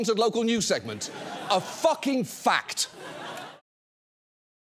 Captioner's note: audience laughs